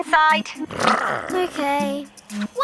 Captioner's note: Big Lizard growls